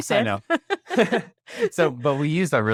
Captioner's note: laughs